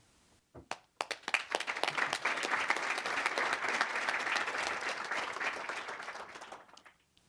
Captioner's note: applause